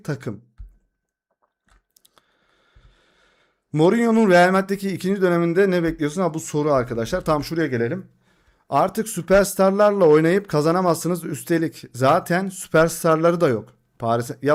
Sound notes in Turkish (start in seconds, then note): 3.0 iç çeker